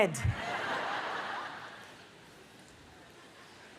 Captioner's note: audience laughs